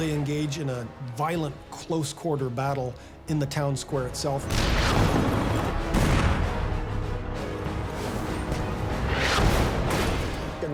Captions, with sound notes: - They engage in a violent close quarter battle in the town square itself. (dramatic music) (shells firing)